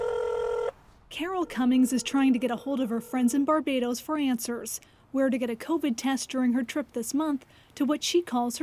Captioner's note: phone ringing